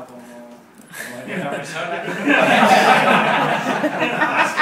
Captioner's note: laugh